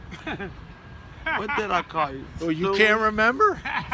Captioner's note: laughs